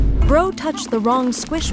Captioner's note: air rumbles